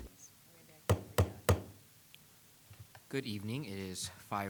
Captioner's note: gavel pounding